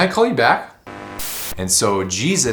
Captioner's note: screen buzzing